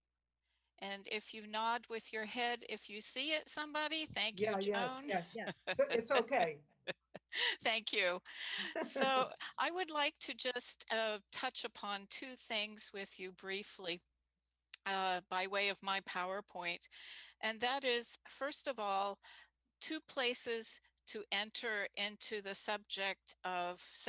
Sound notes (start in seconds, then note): 4.8 laughter; 8.4 laughter